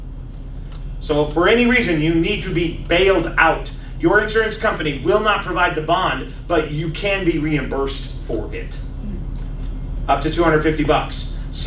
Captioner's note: laughs